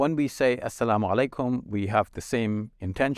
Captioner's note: speaking Arabic